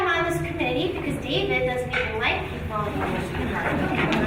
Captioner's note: speaking faintly